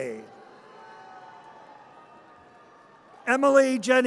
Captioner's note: audience cheers